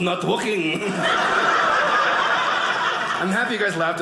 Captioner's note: audience cheering